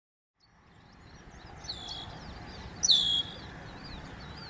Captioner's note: birds chirping